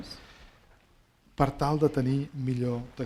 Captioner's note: speaking spanish